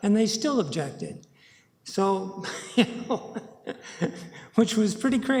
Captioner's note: laughs